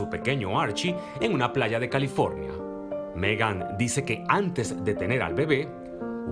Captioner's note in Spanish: AUDIO EN INGLéS